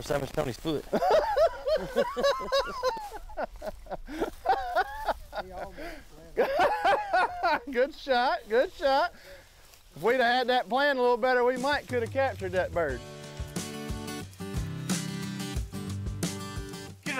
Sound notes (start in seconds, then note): 0.8 chuckles; 0.8 laughs; 7.0 laughing; 13.4 uplifting music